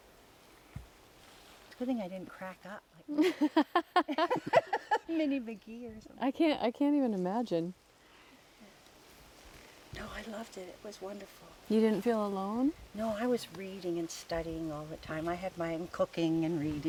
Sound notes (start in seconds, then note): 3.1 laughter